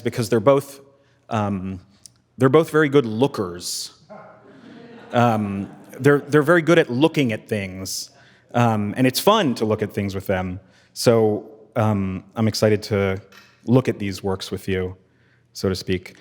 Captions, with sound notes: because they're both very good lookers. (attendees laughing) They're very good at looking at things, and it's fun to look at things with them. So I'm excited to look at these works with you, so to speak.